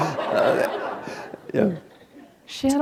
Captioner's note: laughter